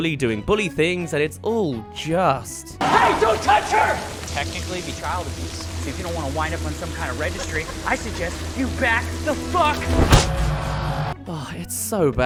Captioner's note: Punch